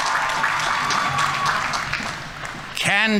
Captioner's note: audience members cheering; audience applauding